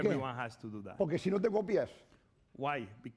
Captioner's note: speaking spanish